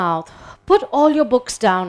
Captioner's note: people exhaling